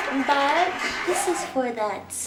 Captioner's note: laughter